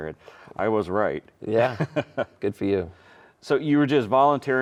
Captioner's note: chuckling